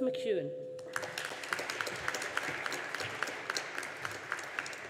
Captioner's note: audience applauding